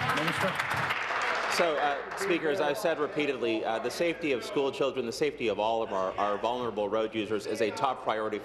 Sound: applause

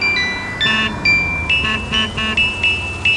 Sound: honking

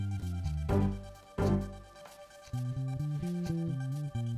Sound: ticking Clock

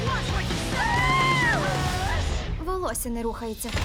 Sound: howling

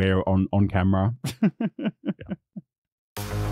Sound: laughs

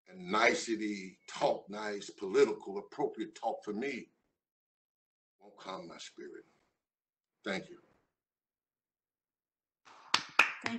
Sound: applause

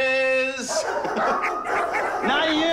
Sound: dogs barking wildly

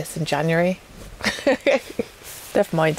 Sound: witch cackle

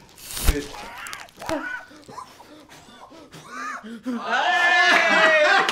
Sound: very muffled gasps for air

